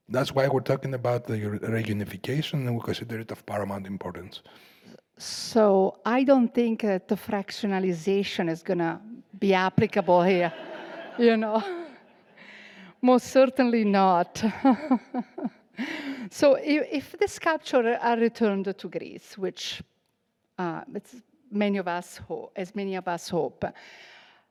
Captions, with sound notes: That's why we're talking about the reunification and we consider it of paramount importance. - So I don't think that the fractionalization is gonna be applicable here, you know? (audience laughing) Most certainly not. (laughs) So if the Sculpture are returned to Greece, which it's many of us hope, as many of us hope,